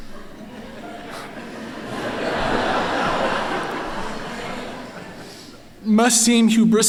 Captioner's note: laughter